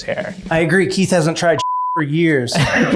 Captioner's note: beep; everyone laughs happily